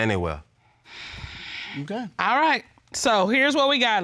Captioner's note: sighs